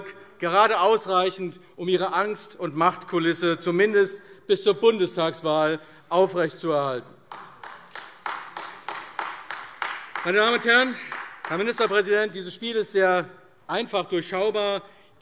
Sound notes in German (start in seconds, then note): 7.2 Beifall AfD